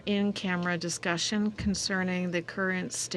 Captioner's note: speaking french